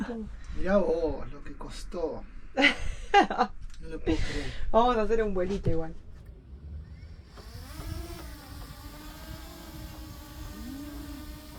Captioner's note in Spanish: risas